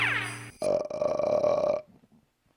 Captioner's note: burps